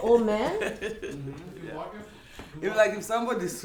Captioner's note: laughter